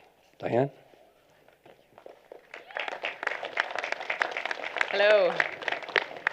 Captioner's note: applause